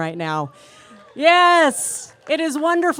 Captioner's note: cheers and applause